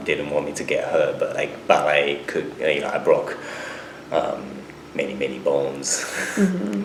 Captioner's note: laughs